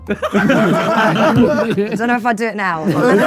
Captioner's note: group laughing